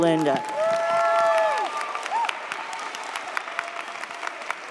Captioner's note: audience cheers